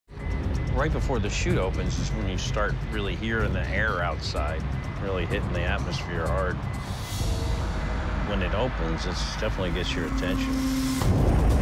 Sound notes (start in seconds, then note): 0.4 beeping